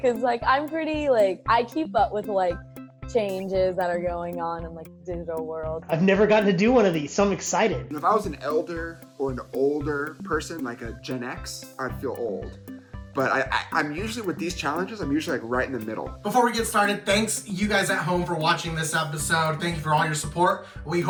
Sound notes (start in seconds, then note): none